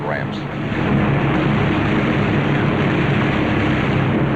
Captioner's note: heavy gunfire